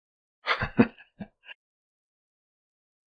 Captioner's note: chuckles